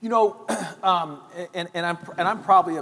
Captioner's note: clears throat